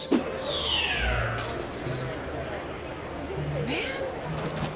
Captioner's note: crash